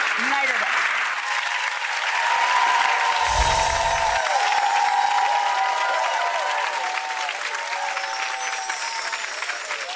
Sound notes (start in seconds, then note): 1.8 audience applause and cheers